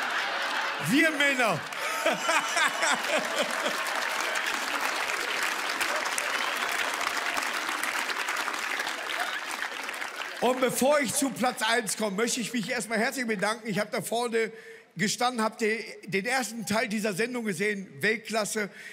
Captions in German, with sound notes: Wir Männer. (Er lacht.) (Applaus) Und bevor ich zu Platz eins komm, möchte ich mich erst mal herzlich bedanken. Ich hab vorne gestanden und den ersten Teil gesehen. Weltklasse.